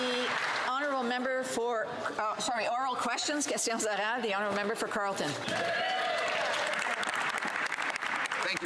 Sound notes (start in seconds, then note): 0.0 some Applause; 6.4 speaking French